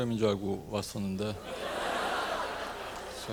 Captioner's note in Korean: 청중들 웃음 ㅎㅎㅎ